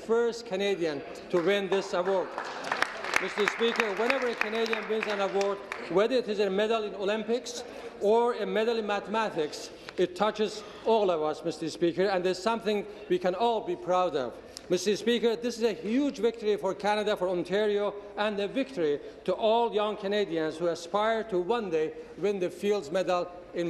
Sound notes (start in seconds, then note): 7.0 applause